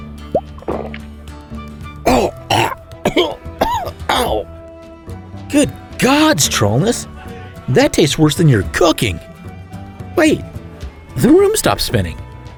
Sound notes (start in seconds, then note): 0.1 cork pop, gulping; 2.0 gagging noises